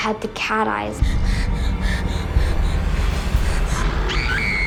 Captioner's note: panting; Reenactment Bryn screaming